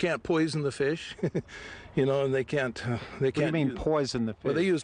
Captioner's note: laughs